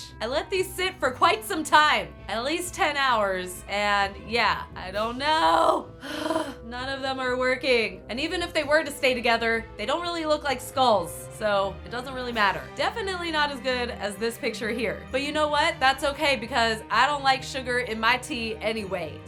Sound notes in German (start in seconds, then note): 6.0 grunzen